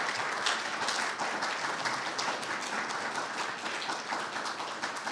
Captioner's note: audience applauding